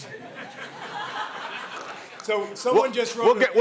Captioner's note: laughter